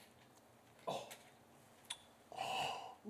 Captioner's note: pinter gasps